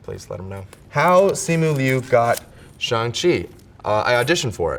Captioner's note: paper rips